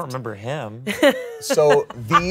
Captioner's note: laughs